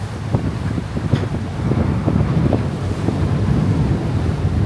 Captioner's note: wind rustling